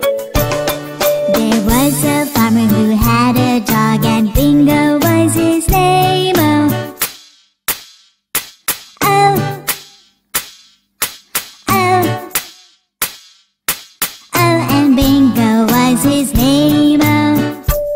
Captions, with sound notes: There was a farmer who had a dog, And Bingo was his name-o. (Clap)-(Clap)-(Clap)-(Clap)-O (Clap)-(Clap)-(Clap)-(Clap)-O (Clap)-(Clap)-(Clap)-(Clap)-O And Bingo was his name-o.